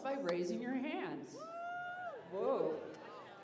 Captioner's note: cheers